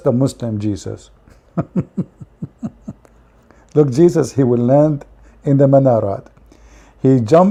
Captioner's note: Ketawa